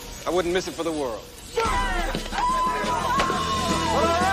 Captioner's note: all cheering